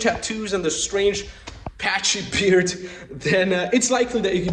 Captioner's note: laughing